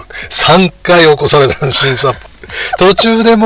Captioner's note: laughs